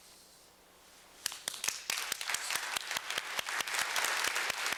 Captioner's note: applause